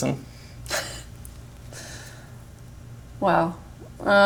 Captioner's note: chuckles